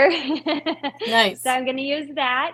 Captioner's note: laughing